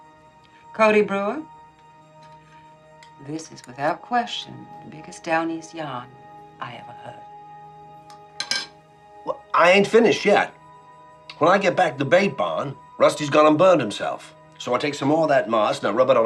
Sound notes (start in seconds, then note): 8.4 fork clattering